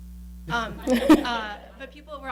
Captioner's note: laughing